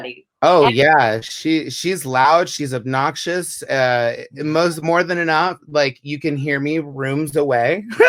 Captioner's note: laugh